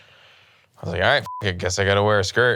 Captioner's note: beep